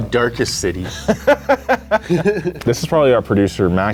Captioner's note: laughs